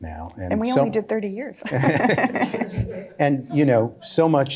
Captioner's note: laughs